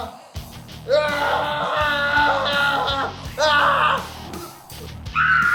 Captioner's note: screaming; screams OC